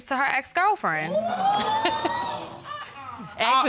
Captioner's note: audience exclaiming